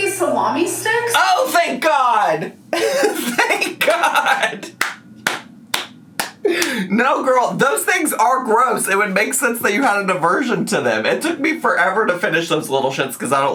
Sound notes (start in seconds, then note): 3.1 laughs and applauds